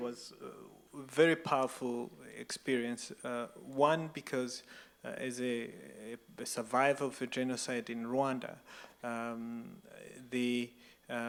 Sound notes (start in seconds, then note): none